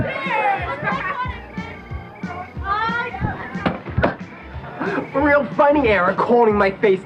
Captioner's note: upbeat rock music; people talking